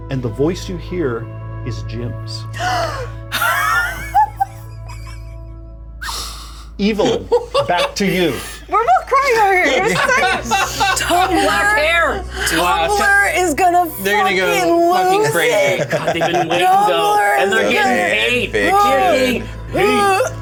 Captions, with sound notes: and the voice you hear is Jim's. (Evelyn gasps) (Bobby laughs) Evelyn, back to you. - We're both crying over here. - Tumblr is gonna fuckin' lose it. - They're gonna go fuckin' crazy. And they're goin' ape. - All the variations of it.